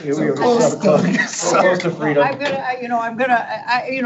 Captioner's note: board members murmuring